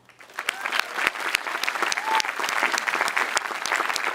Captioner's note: audience applauding